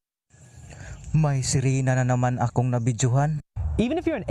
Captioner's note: foreign language